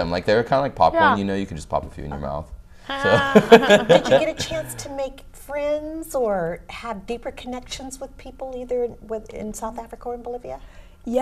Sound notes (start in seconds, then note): 3.0 laughter